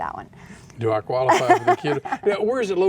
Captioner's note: laughs